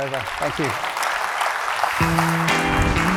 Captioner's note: applause